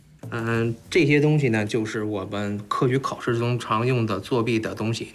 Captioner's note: hablan un idioma extranjero